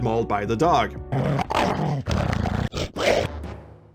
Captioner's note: absurdly horrifying sounds of mauling